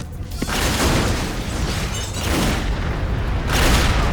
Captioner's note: explosion booming